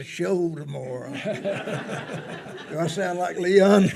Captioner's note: attendees laughing